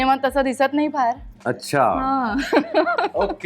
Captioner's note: chuckles